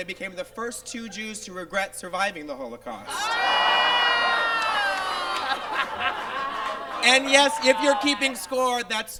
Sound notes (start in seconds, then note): 3.0 Miz Cracker laughs; 3.0 audience groans